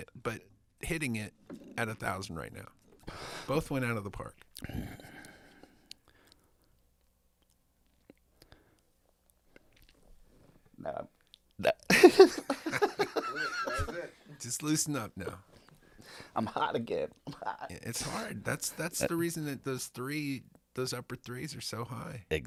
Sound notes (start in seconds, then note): 11.9 laughing